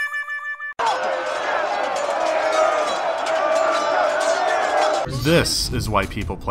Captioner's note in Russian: звуки сражения на мечах